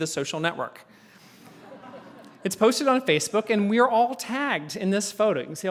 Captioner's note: laugh